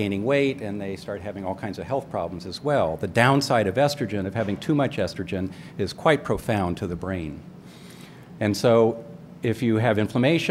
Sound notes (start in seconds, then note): none